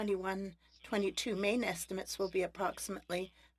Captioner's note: speaking French